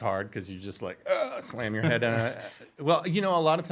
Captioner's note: gasping